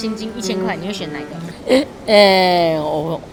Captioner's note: inhales